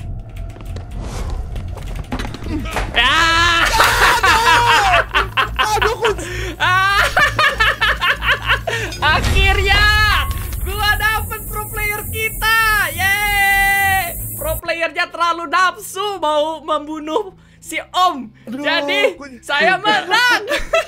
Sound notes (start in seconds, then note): 2.9 screams; 3.0 evil Laugh